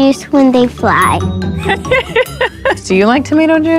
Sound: laughs

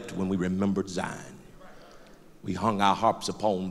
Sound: loud crowd agreement

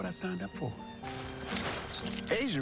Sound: mouse squeaks

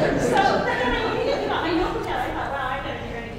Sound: laugh

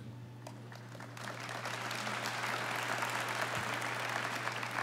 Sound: audience applauding

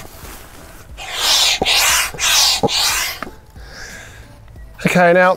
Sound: pump hissing

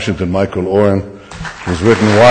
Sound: audience applause

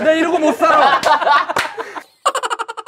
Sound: laughing

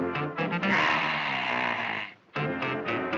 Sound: burps

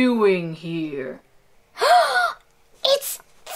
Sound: Alvin gasps

